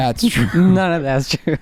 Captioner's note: laughing